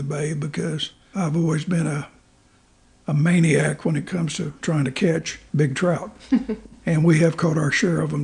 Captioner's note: laughs